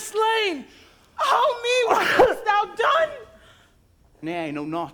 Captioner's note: Polonois coughs